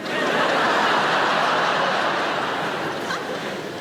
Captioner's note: laughing